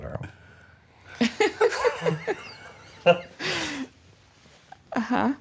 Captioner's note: laughter